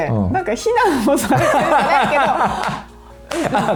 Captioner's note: laughs